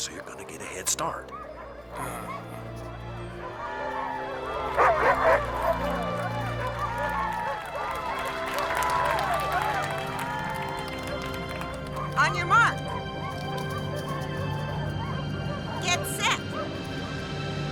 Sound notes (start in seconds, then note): 3.3 crowd cheering; 4.3 dogs barking